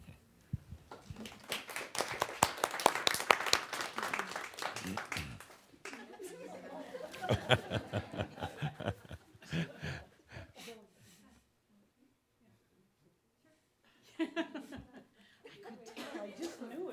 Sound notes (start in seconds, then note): 4.9 applause